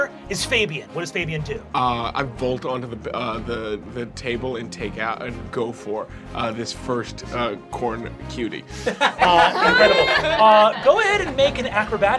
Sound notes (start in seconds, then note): 8.8 laughing